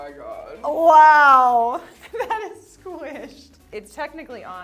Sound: laughs

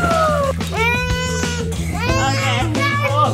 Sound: whining

